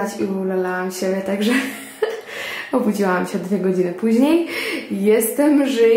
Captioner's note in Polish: śmiech